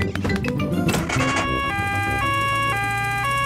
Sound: siren wails

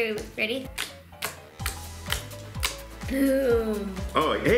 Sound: slime squishing

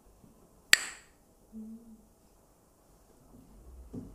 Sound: clacks the sticks

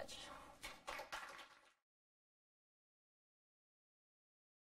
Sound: applause

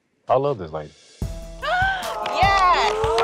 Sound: gasps and aws; applause

